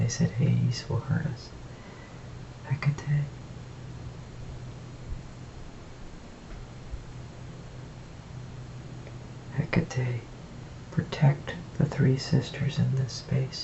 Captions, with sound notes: said Hades will hurt us. Hecate (foregin Language) Hecate Protect the three sisters in this space,